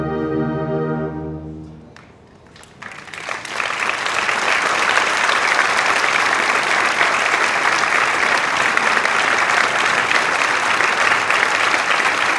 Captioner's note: applause